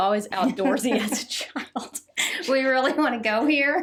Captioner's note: both laugh